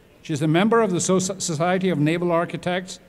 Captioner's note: none